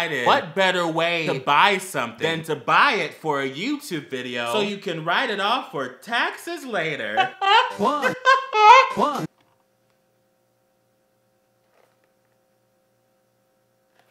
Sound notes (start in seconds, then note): 7.1 satan's laugh; 7.1 still satan's laughing